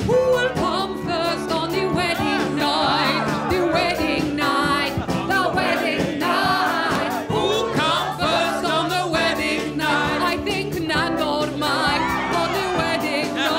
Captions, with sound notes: Who will come first on the wedding night, the wedding night, the wedding night? Who'll come first on the wedding night? I think Nandor might-- [CHEERING] --on the wedding night!